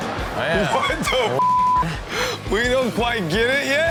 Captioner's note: audience laughs; beep